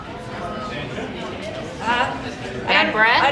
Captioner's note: audience chattering